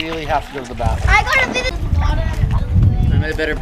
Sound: murmurs

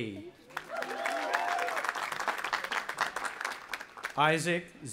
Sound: audience applauding and cheering

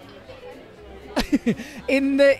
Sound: chuckles

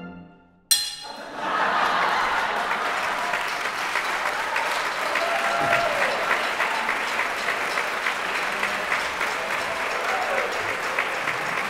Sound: audience Cheers

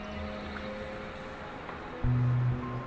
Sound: birds chirping

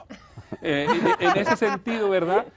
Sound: risas

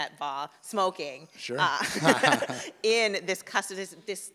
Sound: laugh

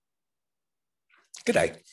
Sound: speaking Australian

